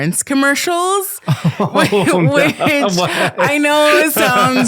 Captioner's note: laughing